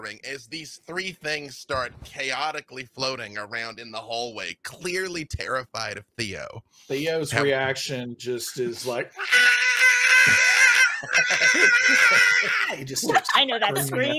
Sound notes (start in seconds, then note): 9.2 screams